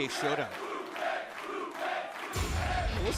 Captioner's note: fans chanting